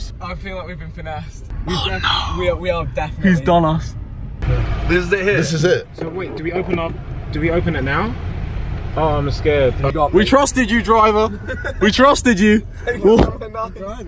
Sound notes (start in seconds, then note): 11.2 laughing